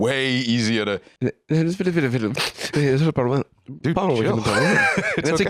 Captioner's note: sniffs